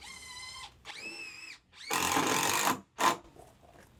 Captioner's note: drill whirring